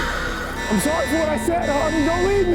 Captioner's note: alarm blaring